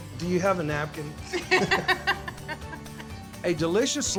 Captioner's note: laughter